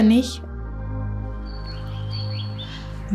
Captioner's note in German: Vogelzwitschern